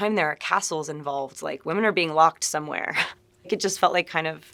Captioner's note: chuckling